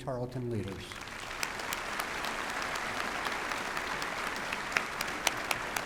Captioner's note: applause